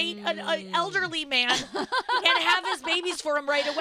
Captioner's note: laughing